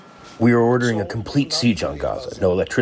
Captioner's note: through translator